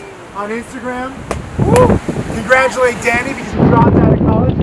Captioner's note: whoops in delight